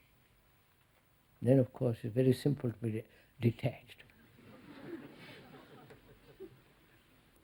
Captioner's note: laughter